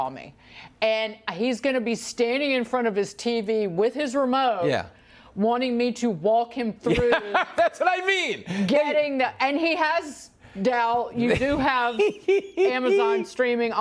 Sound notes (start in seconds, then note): 11.2 laughter